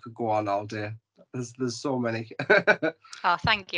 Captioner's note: laughs